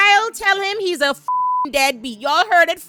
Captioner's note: beep